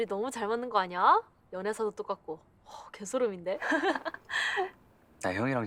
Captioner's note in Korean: 진희 웃음 소리